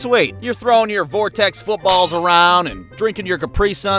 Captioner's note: glass shattering